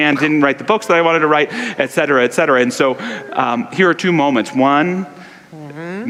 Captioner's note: audience laughter